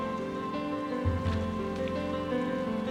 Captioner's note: water splashing